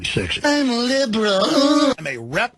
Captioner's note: horrible autotuned noise